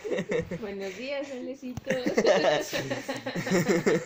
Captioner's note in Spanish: risas